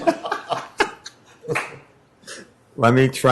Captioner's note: laughter